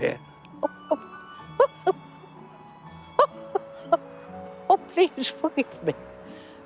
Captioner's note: chortling